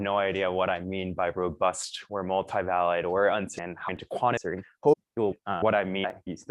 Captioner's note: distorted audio